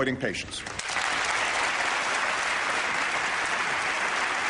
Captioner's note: applause